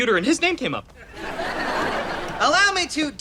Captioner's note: audience laughter